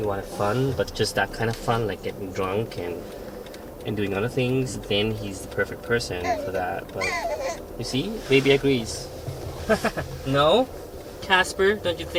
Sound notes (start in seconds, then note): 6.1 baby crying; 9.6 laughing